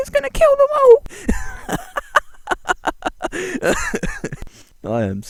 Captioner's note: Keyaruga laughing like a knob